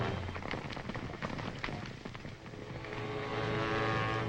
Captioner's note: horses galloping